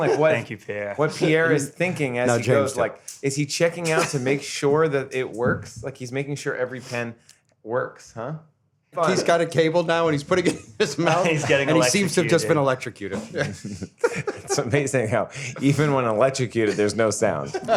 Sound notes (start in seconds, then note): 13.1 laughs